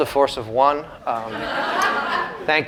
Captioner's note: laughter